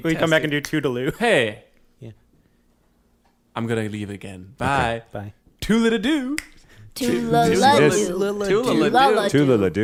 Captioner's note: snaps fingers